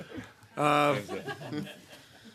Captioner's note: laughter